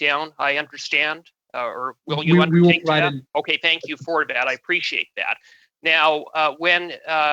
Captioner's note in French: voix de l'interprète